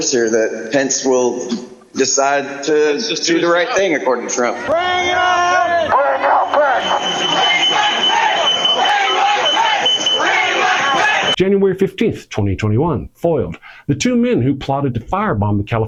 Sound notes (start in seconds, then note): 4.4 chanting